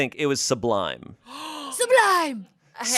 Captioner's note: gasps